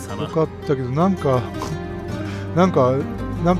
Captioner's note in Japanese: 笑い